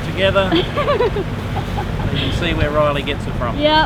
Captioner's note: giggles